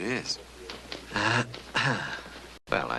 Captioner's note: clears throat